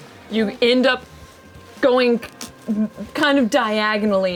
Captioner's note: none